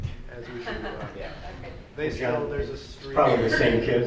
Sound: laughter

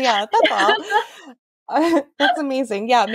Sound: laughs

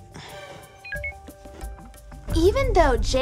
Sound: plastic clunking; electronic beep

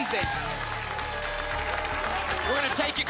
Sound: applause and cheering

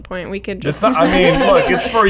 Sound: laughter

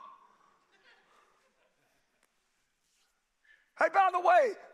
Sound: crowd laughing

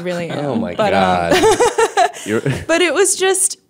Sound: laughter

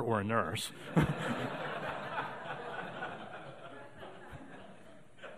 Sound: audience laughing

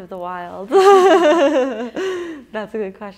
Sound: laughing

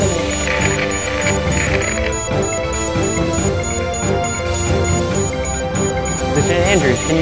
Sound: warning alarms

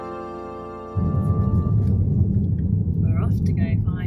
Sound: car noise

